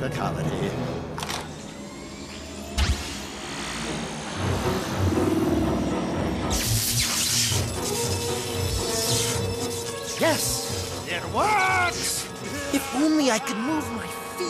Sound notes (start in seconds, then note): 4.6 eel zzt